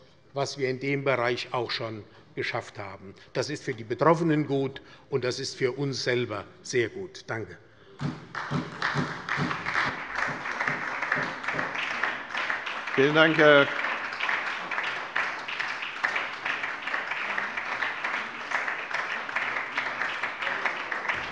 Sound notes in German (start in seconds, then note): 8.0 Beifall bei der SPD